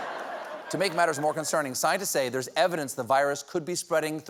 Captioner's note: laughter